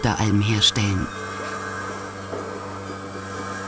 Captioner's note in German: Surrende Geräusche